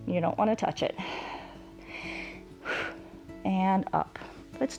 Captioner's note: inhales and exhales